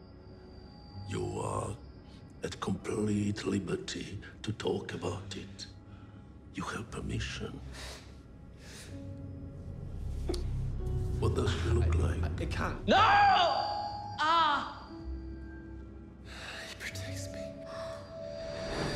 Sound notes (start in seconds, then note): 12.4 high-pitched ringing; 13.7 groans